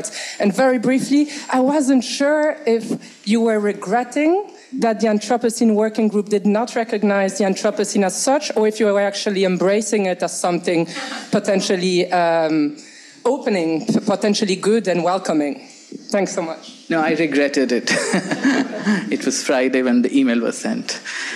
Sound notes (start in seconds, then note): 17.8 laughs